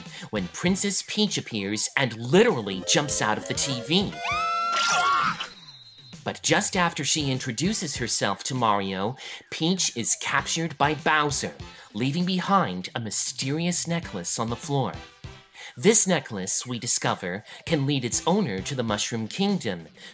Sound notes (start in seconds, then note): 4.2 Peach screams; 4.2 Mario shouts